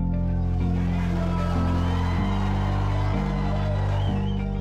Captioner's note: crowd; cheers